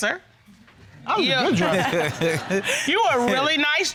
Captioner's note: chuckling